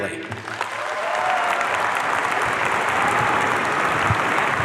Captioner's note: audience cheering